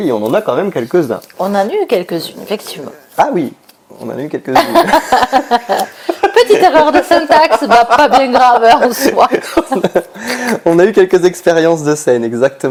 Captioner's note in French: rires